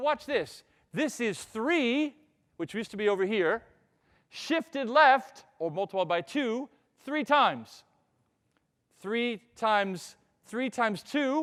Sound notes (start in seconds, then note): none